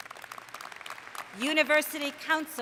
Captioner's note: applause